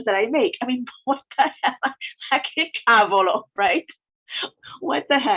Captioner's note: laughs